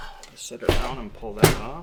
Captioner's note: case thudding